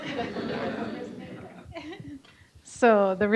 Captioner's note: audience laughing